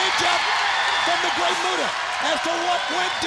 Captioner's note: audience cheering